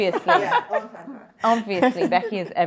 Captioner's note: panellist laughing